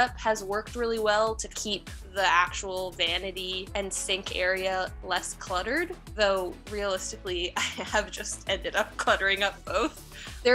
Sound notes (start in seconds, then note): 7.1 chuckles